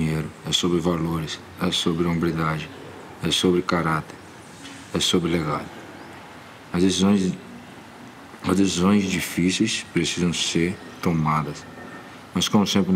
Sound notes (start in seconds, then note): none